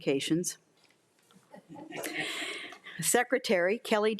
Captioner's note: crowd laughing